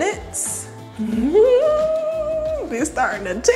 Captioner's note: giggling